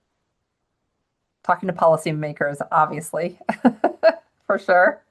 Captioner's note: chuckles